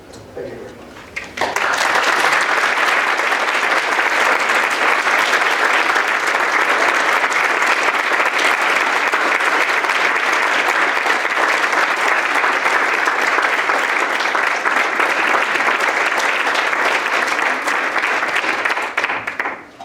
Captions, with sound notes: Thank you very much. [APPLAUSE]